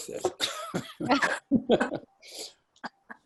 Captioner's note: laughing